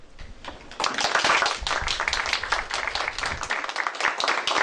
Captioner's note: applause